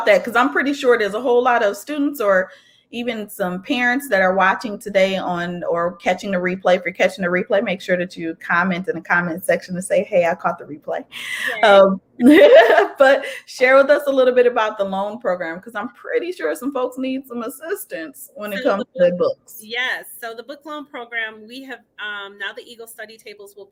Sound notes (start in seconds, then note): 12.2 laughing